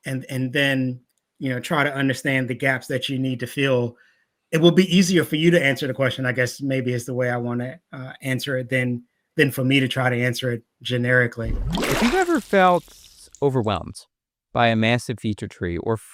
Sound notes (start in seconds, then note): 11.4 water splashing